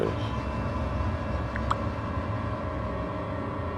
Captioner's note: more reaction sfx